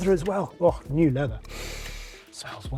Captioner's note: inhales